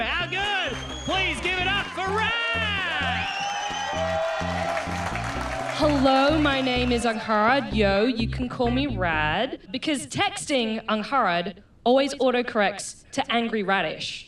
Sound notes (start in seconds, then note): 3.8 cheering and applause